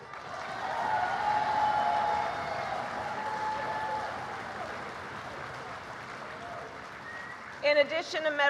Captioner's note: applause